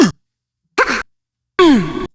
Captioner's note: grunts